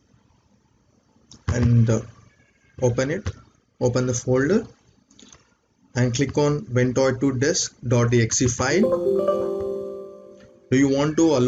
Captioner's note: Windows Alert